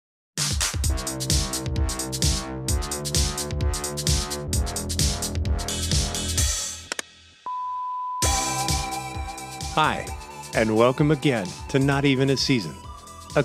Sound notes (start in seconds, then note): 0.4 upbeat music; 7.1 button clicking; 7.4 tone beeping; 8.1 upbeat music